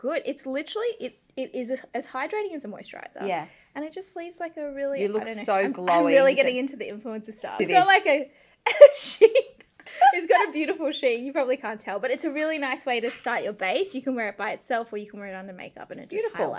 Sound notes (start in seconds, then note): 8.7 laughing